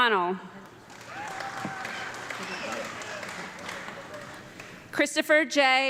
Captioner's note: audience clapping and cheering